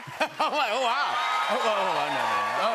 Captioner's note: cheers and applause